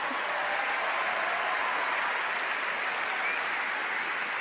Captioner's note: applause